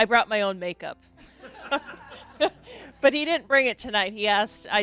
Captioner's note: laughing